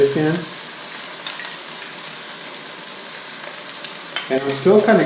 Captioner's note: sizzling